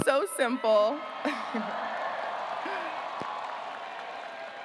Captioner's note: graduates cheering